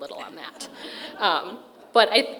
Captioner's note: crowd laughing